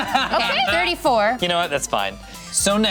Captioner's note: laughs